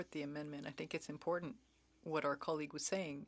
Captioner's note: speaking French